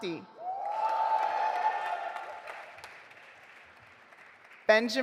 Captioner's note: audience applauding